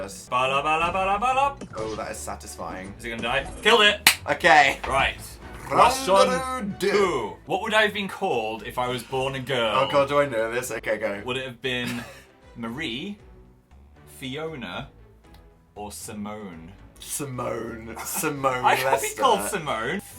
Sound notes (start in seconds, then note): 4.0 clap; 11.8 chuckles